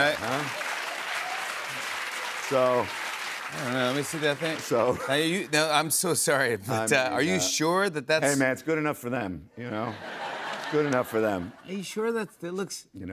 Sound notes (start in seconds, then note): 0.0 applause; 9.8 laughter